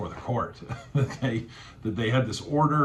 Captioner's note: laughing